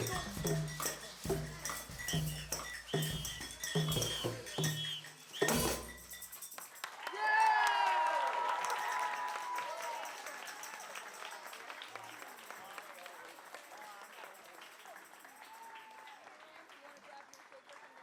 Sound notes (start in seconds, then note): 5.3 applause